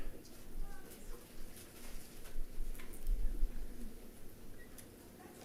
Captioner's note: passersby chattering